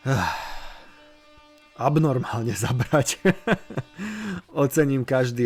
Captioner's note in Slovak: vzdychanie; smiech